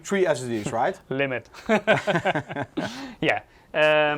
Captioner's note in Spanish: risas